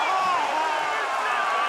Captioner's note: crowd cheering